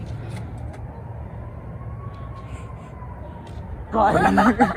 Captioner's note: distant sirens blaring; laughter